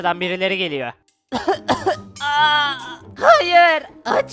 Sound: coughing sound

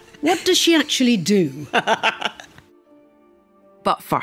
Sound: laughs

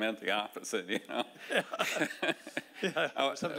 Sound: laughing

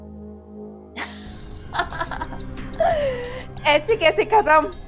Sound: laughing

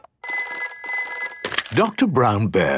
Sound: dial tones beeping; ringing

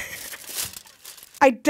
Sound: laughs

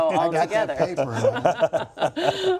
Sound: laughter

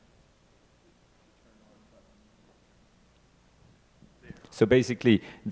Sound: speaks faintly

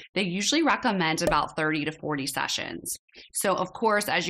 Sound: bubbles bursting

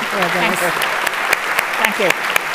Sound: audience applauding

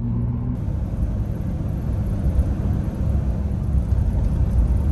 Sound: the sound of a 2000 Jeep Wrangler 4.0L inline 6 engine

